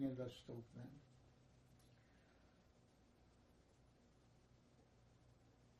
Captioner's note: pause 7 seconds